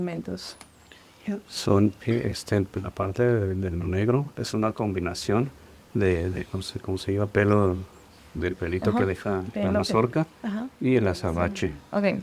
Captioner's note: translator speaking spanish; speaking spanish